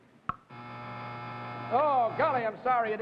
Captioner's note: buzzer